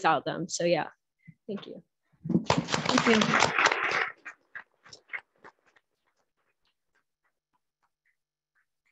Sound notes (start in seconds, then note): 2.4 audience clapping